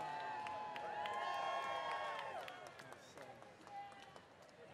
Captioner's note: cheering